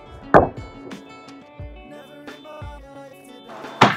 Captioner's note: tennis ball thumping